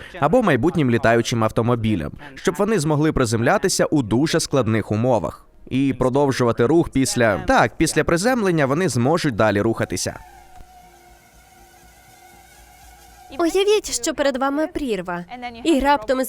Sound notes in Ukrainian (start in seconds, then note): 10.3 дзижчання двигунів робота